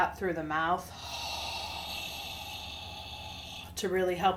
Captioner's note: exhales forcefully